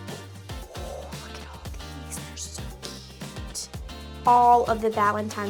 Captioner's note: whispering